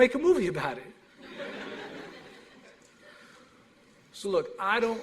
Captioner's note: laughter